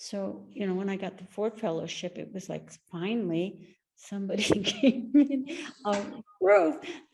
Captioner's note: laughing